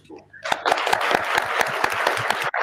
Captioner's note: applause